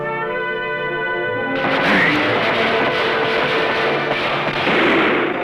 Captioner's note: gunfire